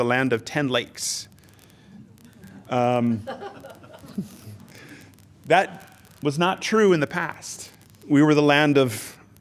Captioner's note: laughter